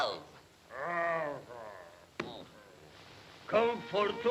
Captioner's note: creature grunting; creature grumbling